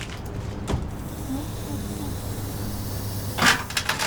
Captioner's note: air hissing